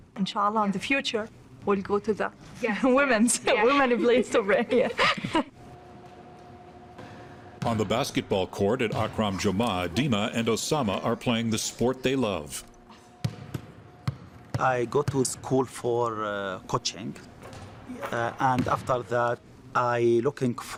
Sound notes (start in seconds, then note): 4.5 everyone laughing; 13.2 basketball thudding